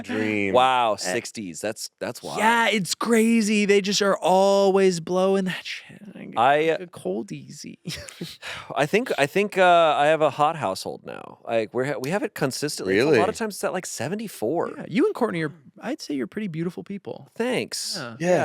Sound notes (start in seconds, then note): 0.0 laughs; 7.9 laughs